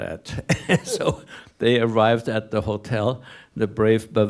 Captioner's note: laughs